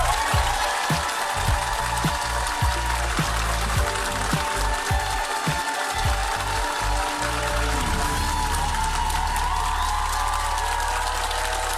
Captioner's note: applause